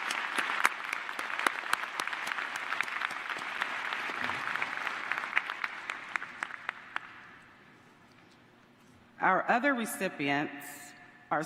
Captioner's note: applause